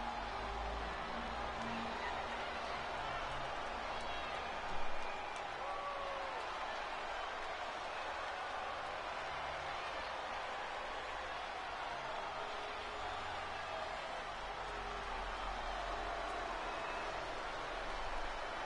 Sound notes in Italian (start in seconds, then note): 2.3 Applauso